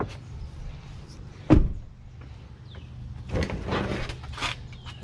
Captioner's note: car door slams